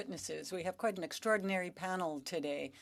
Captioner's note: speaking french